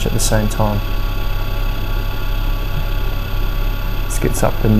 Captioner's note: compressor buzzing